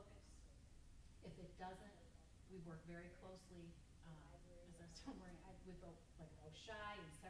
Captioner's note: stammers